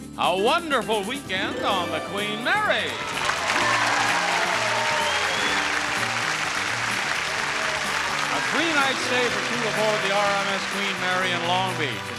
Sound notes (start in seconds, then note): 3.4 audience applauding